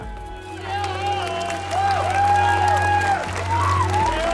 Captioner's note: crowd cheering